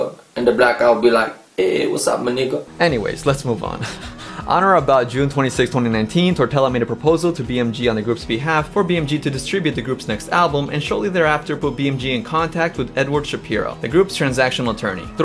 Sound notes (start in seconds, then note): 3.7 laughs